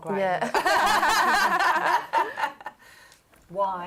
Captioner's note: laughter